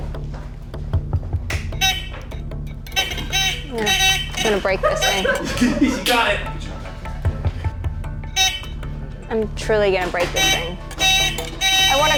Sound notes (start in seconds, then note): 0.2 intense music; 2.7 hooter buzzing; 4.4 producers laughing; 7.4 intense music; 8.3 hooter buzzing; 10.1 hooter buzzing